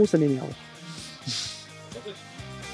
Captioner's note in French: Rires